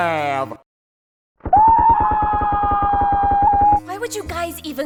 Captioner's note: screams, Pain, and Gunfire